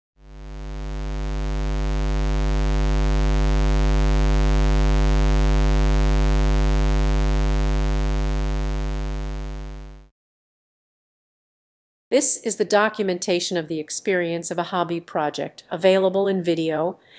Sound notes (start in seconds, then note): 0.2 square wave sound